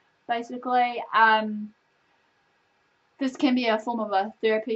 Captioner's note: long pause